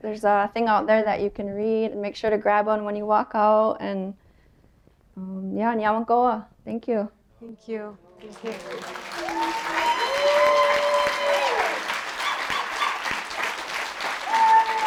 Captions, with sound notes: a thing out there that you can read. Make sure to grab one when you walk out. And…yeah [SPEAKING HER LANGUAGE] Thank you. Thank you. [APPLAUSE]